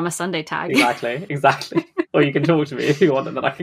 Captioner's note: laughing